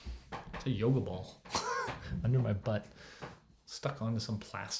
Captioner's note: chuckles